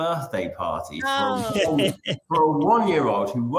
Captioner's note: chuckles